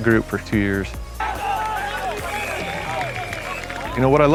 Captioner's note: players talk, whistle blows